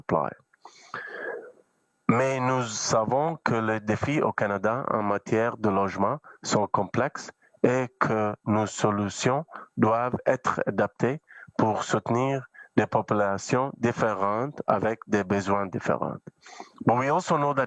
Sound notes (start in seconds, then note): 1.9 speaking French